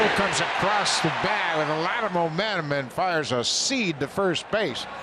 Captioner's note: cheering and Applause